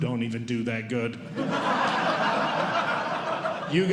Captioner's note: audience Laughing